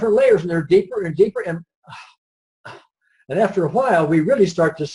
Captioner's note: sighs